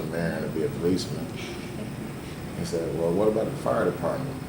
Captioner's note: laughs